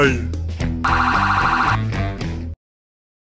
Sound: siren blares

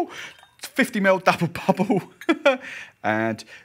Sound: laughs

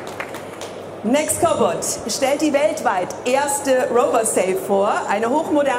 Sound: audience applauds; speaking in foreign language

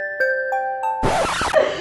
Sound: lullaby music; music cuts out; record scratch; laughter

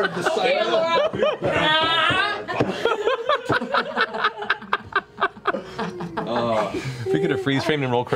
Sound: laughter

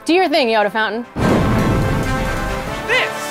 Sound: whoosh

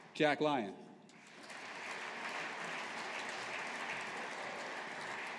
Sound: audience applauding

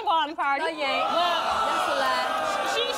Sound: adience booing

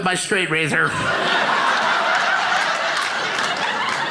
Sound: crowd laughs

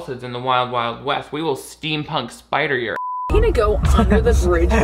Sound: beep

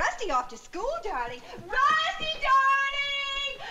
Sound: shouting

